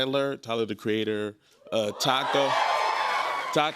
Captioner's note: audience cheers